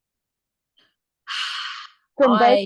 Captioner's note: sighs